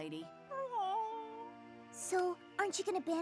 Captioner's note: whimpers